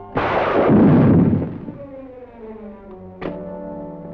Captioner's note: explosive booming